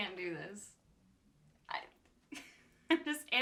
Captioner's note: laughs